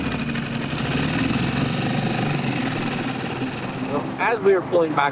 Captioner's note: boat motor rumbling